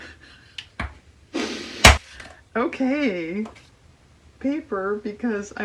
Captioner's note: laughs